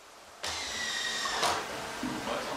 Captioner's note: drilling, snatches of conversation